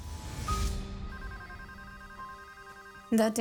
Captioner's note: phone ringing